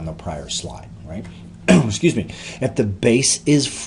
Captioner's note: coughs